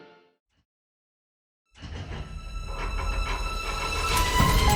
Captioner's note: vault door clanking